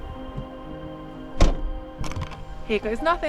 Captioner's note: slam